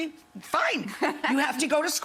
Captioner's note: laughs